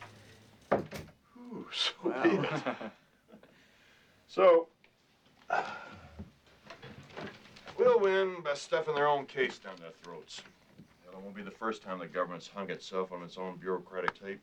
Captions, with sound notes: OH, SO BE IT. SO... [sighing] WE'LL WIN BY STUFFING THEIR OWN CASE DOWN THEIR THROATS. IT WON'T BE THE FIRST TIME THE GOVERNMENT HAS HUNG ITSELF ON ITS OWN BUREAUCRATIC TAPE.